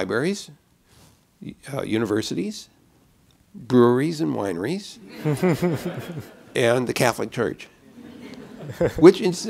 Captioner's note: laughter